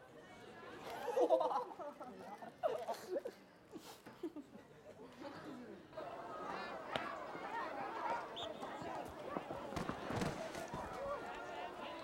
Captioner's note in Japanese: 笑い声